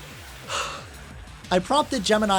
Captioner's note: inhales